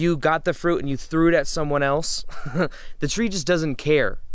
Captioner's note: laughing